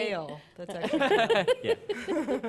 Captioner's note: laughter